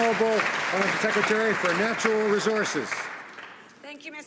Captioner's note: some Applause